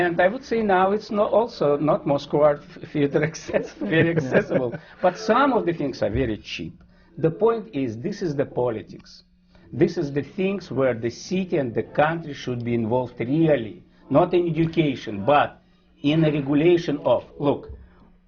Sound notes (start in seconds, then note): 3.2 laughter